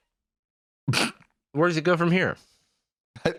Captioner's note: snickers